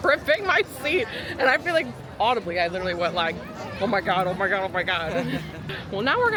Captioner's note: laughs